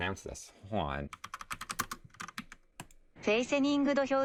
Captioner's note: keyboard typing sounds